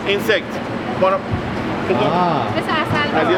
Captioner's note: speaks in foreign language